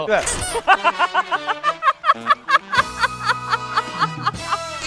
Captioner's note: hahahahahaha